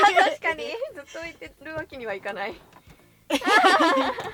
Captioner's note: laughs